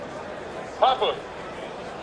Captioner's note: sound of a huge crowd of people in the background